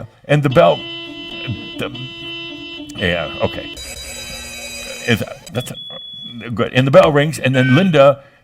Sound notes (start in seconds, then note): 0.4 car horns honking; 3.5 alarm bells ringing; 7.4 a variety of different buzzers and sounds keep continuing